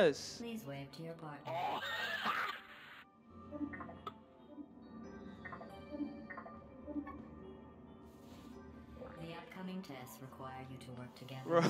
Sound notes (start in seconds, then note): 1.7 victorious-laugh.mp3